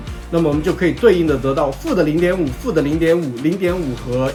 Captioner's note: slip